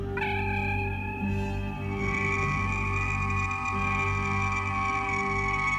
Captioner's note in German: Transportersummen